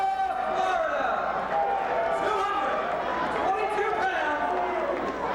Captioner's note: presenter speaking faintly off mic